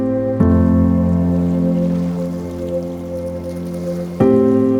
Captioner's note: gentle music; water flowing